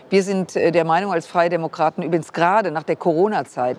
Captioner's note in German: none